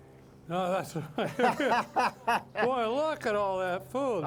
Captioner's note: laughing